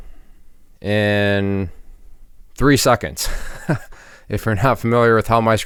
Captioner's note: laughs